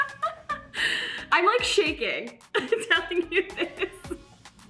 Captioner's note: laughs